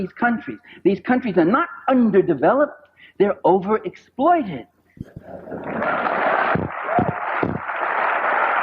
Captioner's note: applause